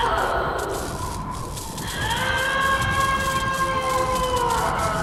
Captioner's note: screams and noises of electricity